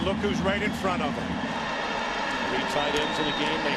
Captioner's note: crowd cheering